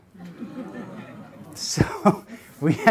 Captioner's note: audience laughs